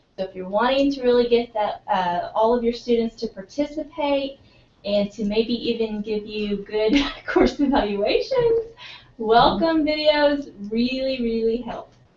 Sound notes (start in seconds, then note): 7.3 laugh